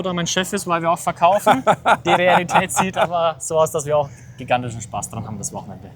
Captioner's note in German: gelächter